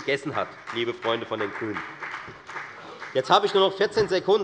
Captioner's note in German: Beifall bei der FDP